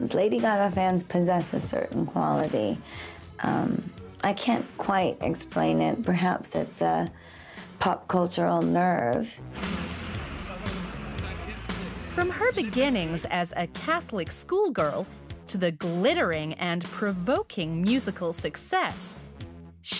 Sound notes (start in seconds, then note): 9.8 cameras clicking; 10.2 crowd chattering